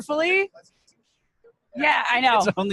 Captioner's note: microphone distant